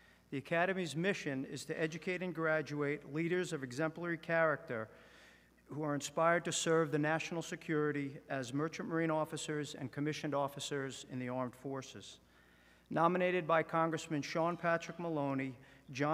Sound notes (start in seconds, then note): none